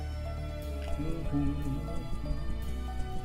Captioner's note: humming along